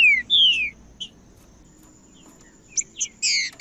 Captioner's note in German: trinca ferro cantando